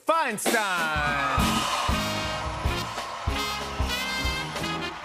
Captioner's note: cheers and applause